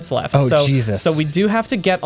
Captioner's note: pat